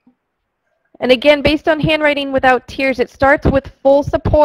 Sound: voiceover

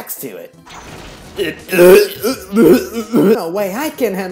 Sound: painful Grunt Sounds who put their Backs to it

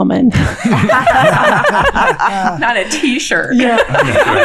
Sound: all laughing

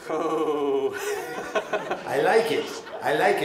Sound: laughs

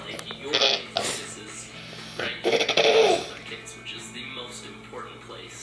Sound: coughing and laptop playing

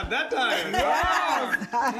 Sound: laughter

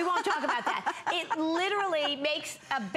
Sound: laughter

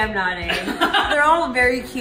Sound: laughter

